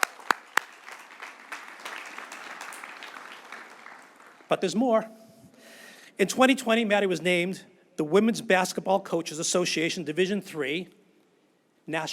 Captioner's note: cheers and applause